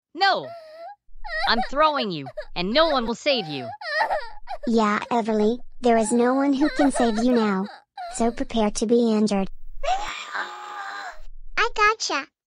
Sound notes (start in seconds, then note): 9.8 screaming